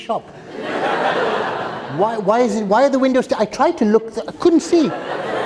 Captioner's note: laughter